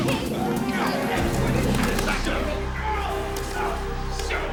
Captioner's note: grunts